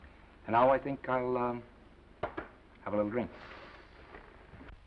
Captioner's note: hand patting